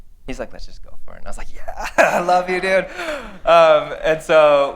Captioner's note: laughter